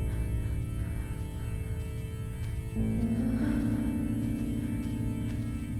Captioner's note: footsteps pattering